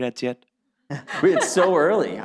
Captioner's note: laughs